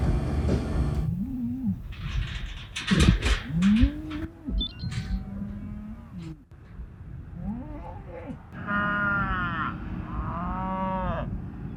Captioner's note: cow moo